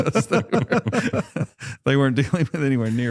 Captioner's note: laughter